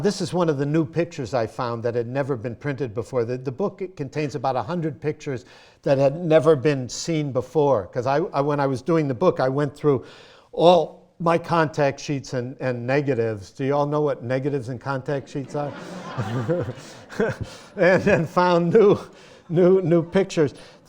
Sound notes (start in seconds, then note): 15.2 laughter